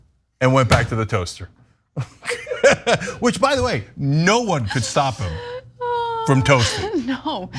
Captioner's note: laugh; laugh